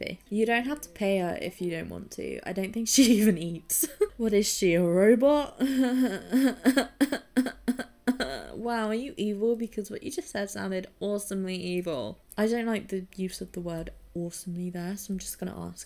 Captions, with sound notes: "You don't have to pay her if you don't want to. [laughing] I don't think she even eats." "What is she, a robot?" [uneasy laughter] "Wow, are you evil? Because what you just said sounded awesomely evil." I don't like the use of the word 'awesomely' there.